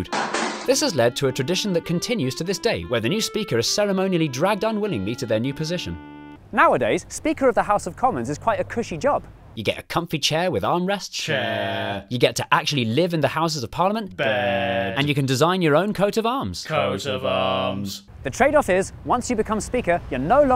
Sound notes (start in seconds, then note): 11.3 chanting; 14.2 chanting; 16.6 chanting